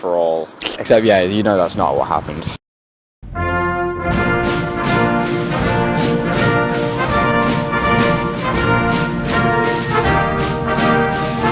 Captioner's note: rewind sfx